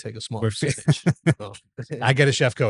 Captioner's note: laughs